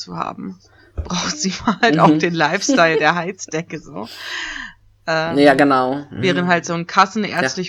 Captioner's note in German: ironie